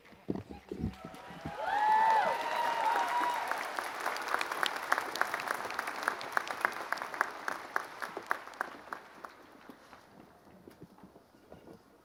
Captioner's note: applause